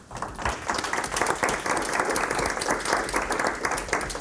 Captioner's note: applause